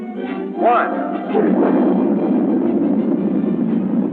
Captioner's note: rockets rumbling